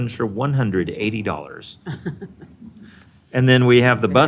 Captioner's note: chuckling